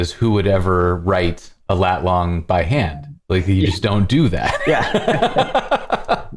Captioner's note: laughter